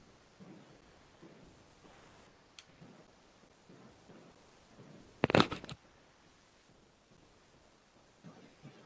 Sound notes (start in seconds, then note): 5.2 scraping